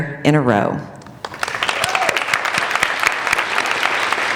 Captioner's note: applauding